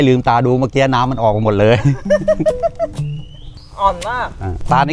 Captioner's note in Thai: เสียงหัวเราะ